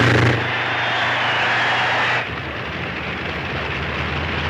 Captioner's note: crowd cheers